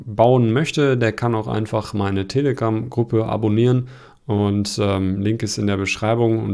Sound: German

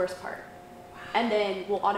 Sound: whispering

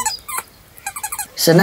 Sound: sound of a dogs toy

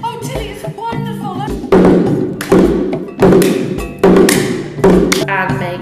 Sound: drums beating; hands clapping

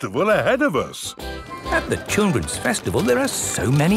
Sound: festival buzz and music

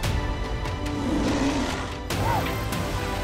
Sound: roars

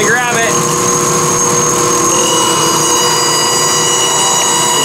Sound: machinery whirring

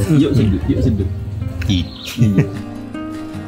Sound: laugh

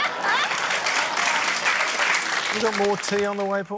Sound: applause

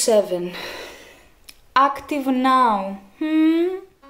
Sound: deep breath

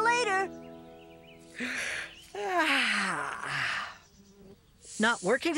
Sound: sighs

